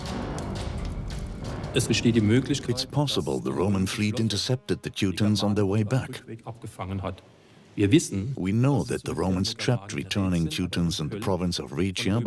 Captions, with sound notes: (in German) (dubbed in English) Maybe the Roman fleet intercepted the Teutons on their return. We know the Romans trapped returning Teutons in Raetia,